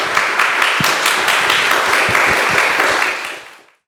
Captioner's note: applause